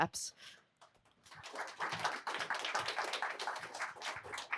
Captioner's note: applause